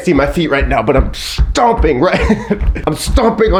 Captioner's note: feet stomping